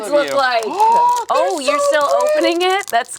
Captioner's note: gasps